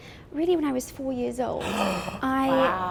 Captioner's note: gasp